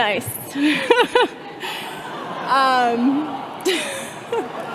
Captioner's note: all laughing